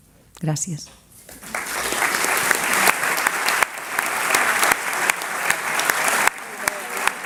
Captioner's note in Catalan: Aplaudiments